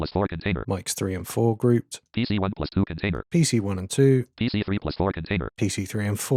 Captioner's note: automated voice; automated voice